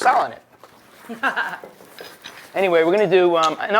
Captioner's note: laughs